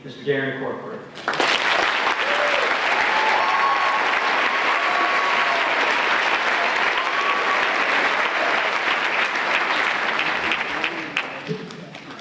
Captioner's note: applause